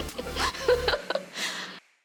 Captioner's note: giggles